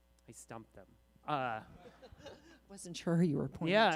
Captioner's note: laughter